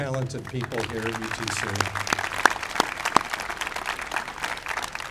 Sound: applauding

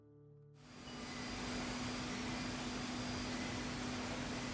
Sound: machines hum

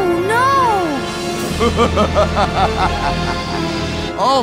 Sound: laughing

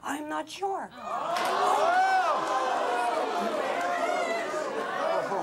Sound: audience clamors

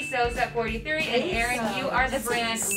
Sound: ladies exclaiming

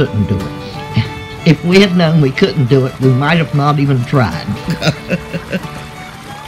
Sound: laughs

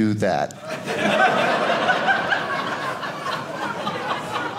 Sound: audience laughing

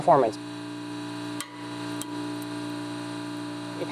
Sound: plink

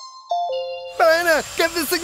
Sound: vacuum sound

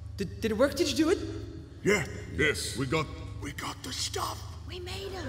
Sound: whispering

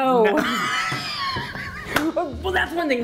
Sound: laughing

